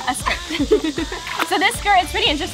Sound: laughing

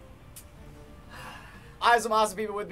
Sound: sighing

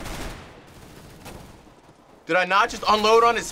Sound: firing; distant gunfire

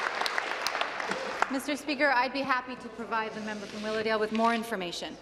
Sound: applause

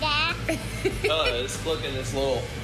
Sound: laughter

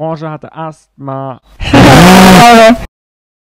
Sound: bull noises

